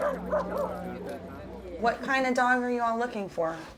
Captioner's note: dogs barking